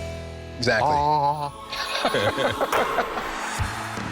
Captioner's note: both laugh